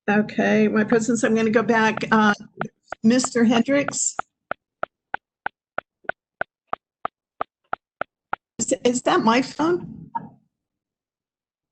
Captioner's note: tapping sound